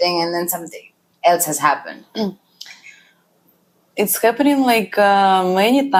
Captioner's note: clears throat